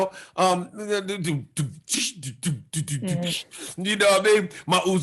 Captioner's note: imitates hip hop beats